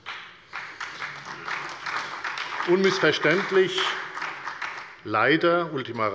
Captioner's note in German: Beifall bei der FDP und der SPD